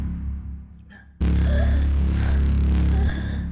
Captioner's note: gasping